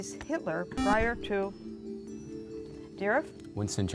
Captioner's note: buzzer